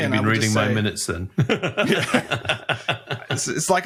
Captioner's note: laughs